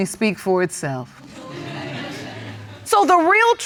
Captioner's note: audience laughs